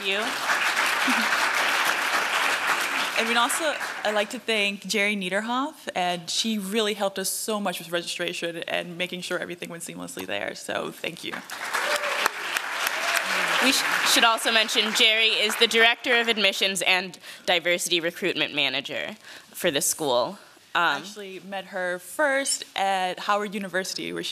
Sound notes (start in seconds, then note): 0.0 applause; 11.2 applause